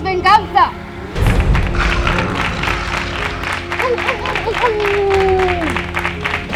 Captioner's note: claps, roars and howls